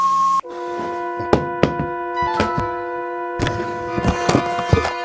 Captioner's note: remote thudding